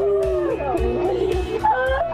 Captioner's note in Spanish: gritos